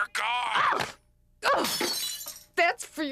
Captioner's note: yells